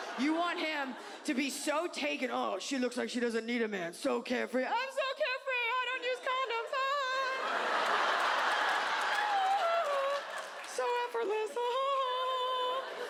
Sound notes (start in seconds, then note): 7.2 audience laughs; 12.2 laughs